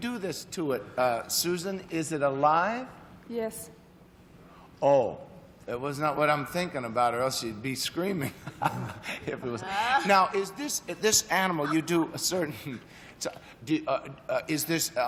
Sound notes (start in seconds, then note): 8.3 chuckles